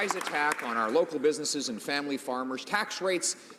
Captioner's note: some Applause